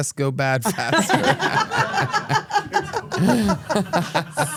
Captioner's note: everyone laughs